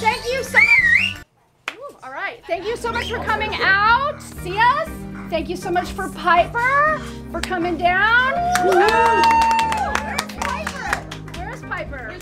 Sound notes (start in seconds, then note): 0.4 whistling; 8.4 clapping